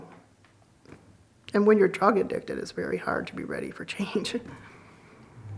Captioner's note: laughs